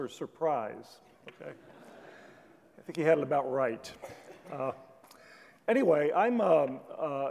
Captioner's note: laugh